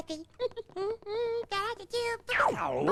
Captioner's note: humming